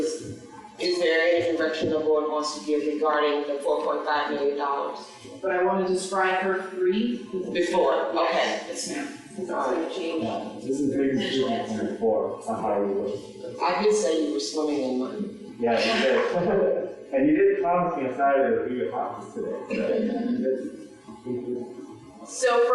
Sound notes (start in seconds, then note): 15.3 laughs